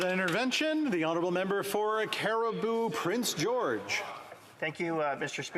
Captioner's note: some Applause